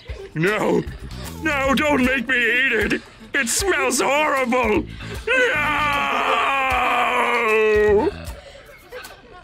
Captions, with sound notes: - No! No, don't make me eat it! It smells horrible! (anguished screaming)